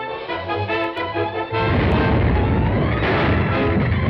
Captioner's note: explosion; ground rumbling